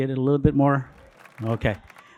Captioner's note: audience applauding